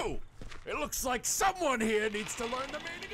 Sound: angered

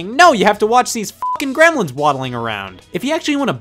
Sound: beep

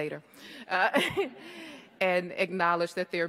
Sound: all laugh

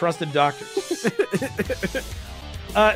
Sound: laughs

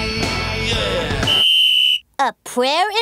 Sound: whistling

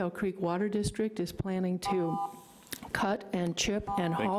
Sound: timer buzzing

